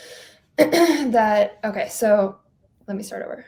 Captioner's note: clearing throat